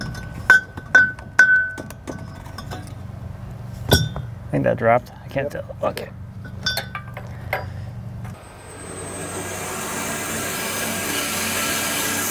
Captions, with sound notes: (metal banging) I think that dropped, I can't tell. Okay. (saw blade humming)